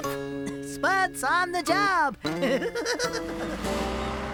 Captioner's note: laughing